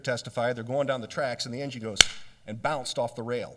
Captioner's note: makes clapping sound with hands